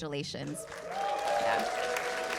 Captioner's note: cheers and applause